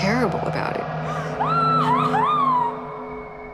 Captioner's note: Kara screams